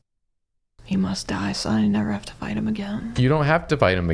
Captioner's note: quietly